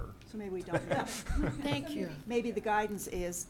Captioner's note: laughing